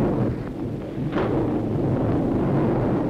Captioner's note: thunderstorm